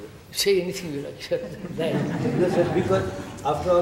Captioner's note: laughter